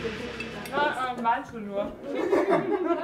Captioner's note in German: Gespräche im Hintergrund